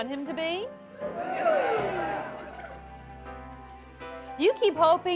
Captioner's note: small cheer